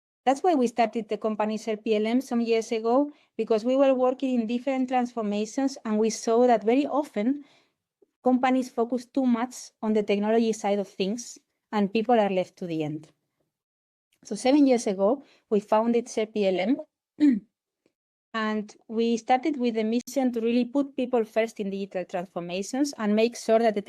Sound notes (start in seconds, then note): 17.2 clears throat